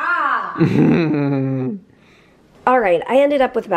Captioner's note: chuckles